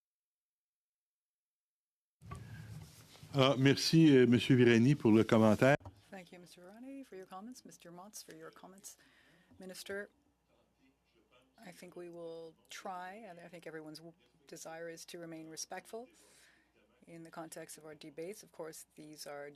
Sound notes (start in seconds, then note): 8.2 speaking French